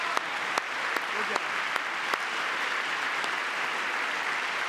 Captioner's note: cheering; applause